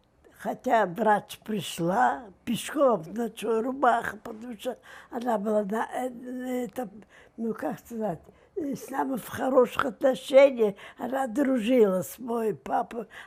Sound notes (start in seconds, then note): 6.2 mumbling